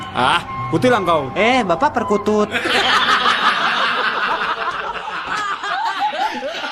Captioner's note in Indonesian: tertawa